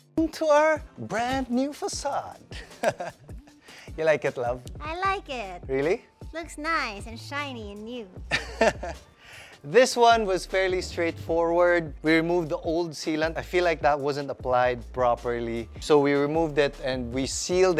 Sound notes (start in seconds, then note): 2.6 laughs; 8.3 chuckles